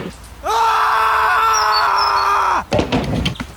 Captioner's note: screams